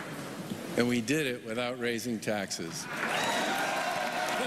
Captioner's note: applause